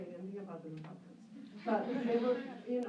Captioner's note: laughter